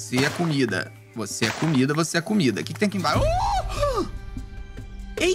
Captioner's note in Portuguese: faz som de surpresa